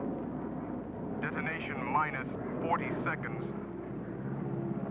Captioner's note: man On Radio